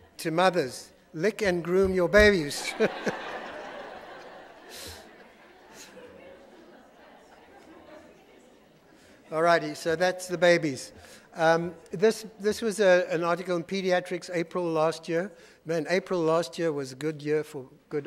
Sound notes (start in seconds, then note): 2.3 audience laughing; 2.6 laughing